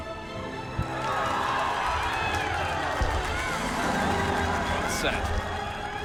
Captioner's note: applause